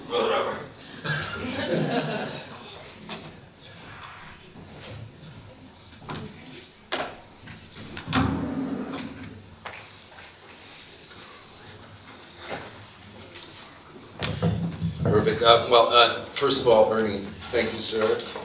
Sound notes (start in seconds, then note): 1.0 audience chuckles; 3.2 people chattering